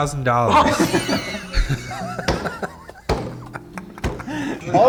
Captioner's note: group laughs